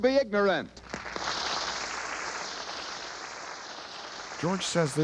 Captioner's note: audience applauds